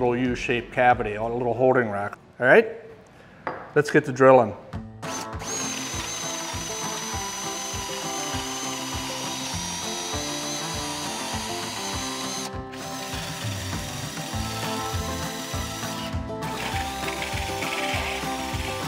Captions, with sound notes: in that little U-shaped cavity, a little holding rack. All right, let's get to drilling. (upbeat music) (drill whirring)